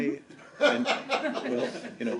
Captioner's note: laughter